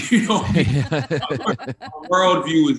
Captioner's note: group laughs